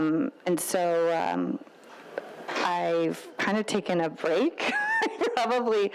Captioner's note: laughs